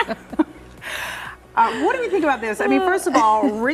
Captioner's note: laughing